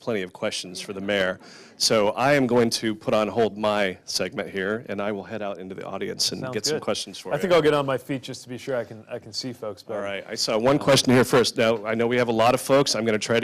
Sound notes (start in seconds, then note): none